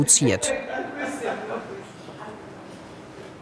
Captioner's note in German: Stimmengewirr